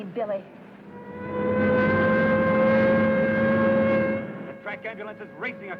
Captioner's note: siren wailing